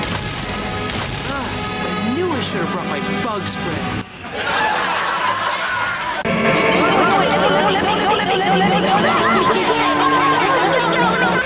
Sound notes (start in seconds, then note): 4.2 laughtrack; 6.2 Tsunomon, Tokomon and Boob all shout distorted repeatedly